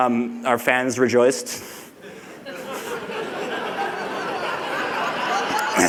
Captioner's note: laughter